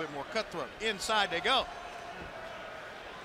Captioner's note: crowd chatter